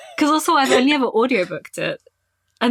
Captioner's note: laughing